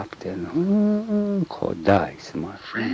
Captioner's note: hums